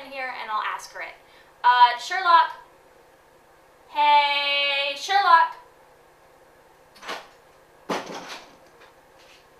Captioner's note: door opening